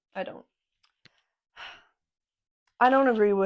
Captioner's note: sigh